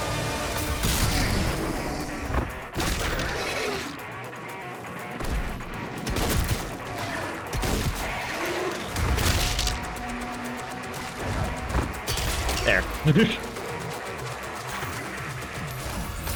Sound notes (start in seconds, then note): 13.0 giggles